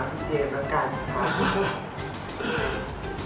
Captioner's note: laughs